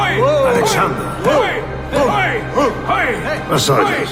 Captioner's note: cheering